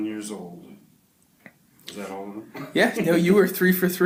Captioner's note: laughs